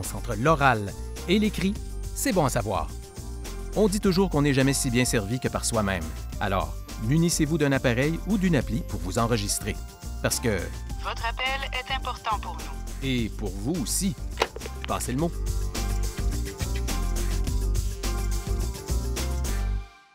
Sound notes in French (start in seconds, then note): 10.7 voix enregistrée